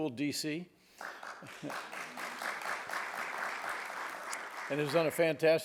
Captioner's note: audience applauds